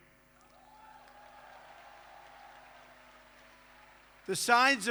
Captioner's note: applause